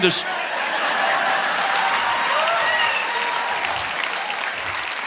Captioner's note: audience laughing